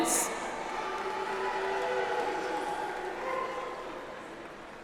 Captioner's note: audience applauds